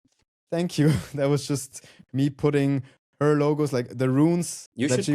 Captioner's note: chuckles